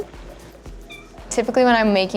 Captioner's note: cat meows